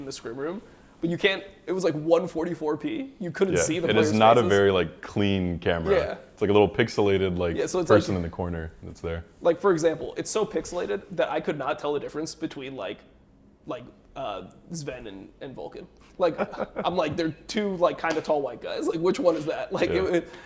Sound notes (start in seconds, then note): 16.2 laughs